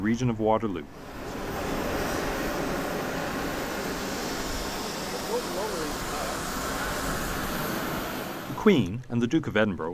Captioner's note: airplane sounds